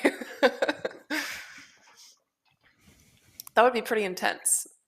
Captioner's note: laughter